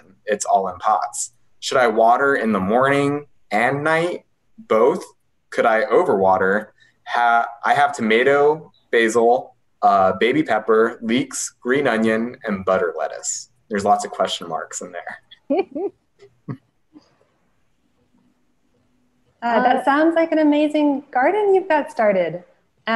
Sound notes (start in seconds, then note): 15.3 laughing